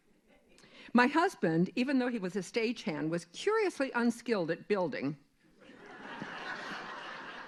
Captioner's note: laughter